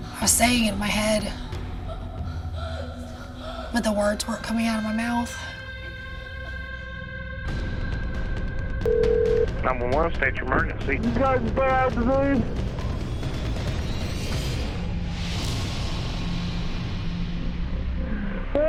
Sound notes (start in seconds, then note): 8.8 phone ringing